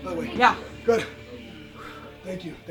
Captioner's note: exhales deeply